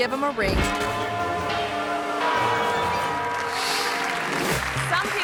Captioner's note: bells tolling; audience applauding